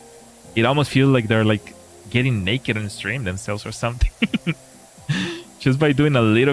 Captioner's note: laughter